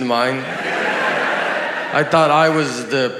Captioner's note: audience laughs